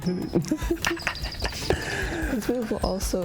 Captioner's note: both laugh